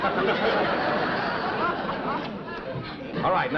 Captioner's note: chuckling